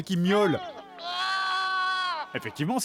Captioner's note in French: miaulements